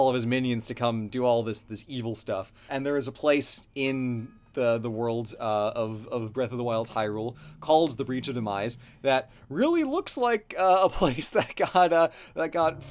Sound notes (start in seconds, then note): 10.6 laughs